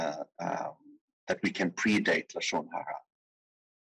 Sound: speaking in foreign language

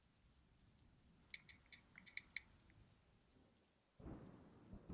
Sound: cellphone typing

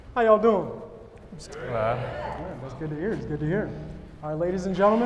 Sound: audience murmuring

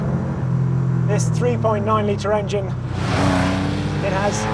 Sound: engine roars

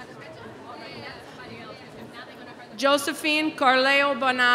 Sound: none

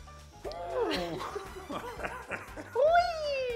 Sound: lively music; both laughing

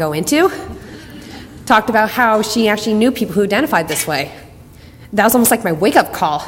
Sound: audience laughter

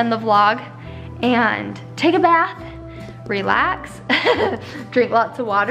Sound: chuckles

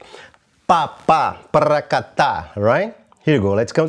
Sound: vocalizes rhythm

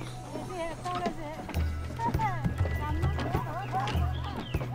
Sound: woman speaking Tibetan, laughing

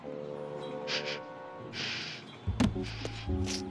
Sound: sniffles

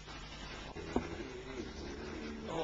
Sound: groans

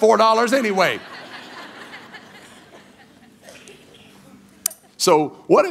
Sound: congregation laughing

